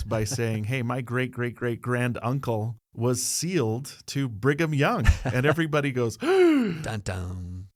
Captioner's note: gasp